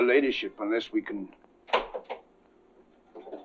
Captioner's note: window rattling